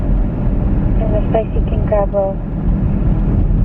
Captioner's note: woman on phone